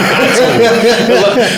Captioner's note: laughing